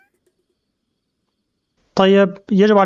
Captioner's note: crickets